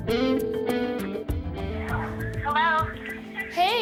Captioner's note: phone ringing